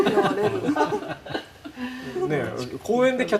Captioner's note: laughter